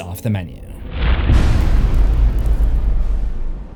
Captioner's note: impact